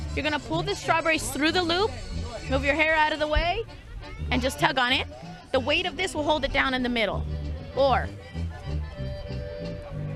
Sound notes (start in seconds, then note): none